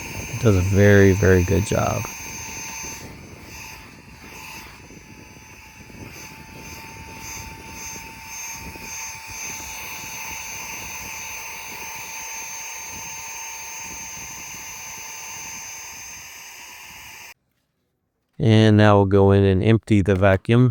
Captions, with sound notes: It does a very, very good job. [vacuum noise] And now we'll go in and empty the vacuum.